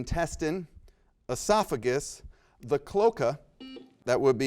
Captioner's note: buzzer rings